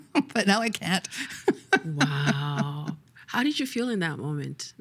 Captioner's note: laughing